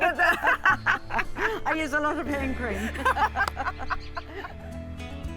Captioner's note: both laugh